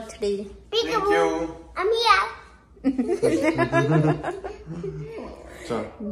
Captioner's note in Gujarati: હાસ્ય